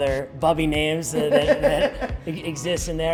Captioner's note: laughing